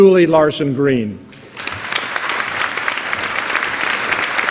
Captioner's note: applause